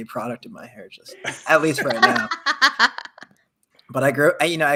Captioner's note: laughs